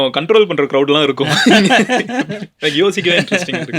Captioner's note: laughter